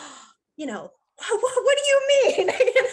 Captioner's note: gasping